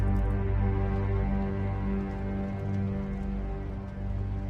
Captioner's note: dramatic music rises; rain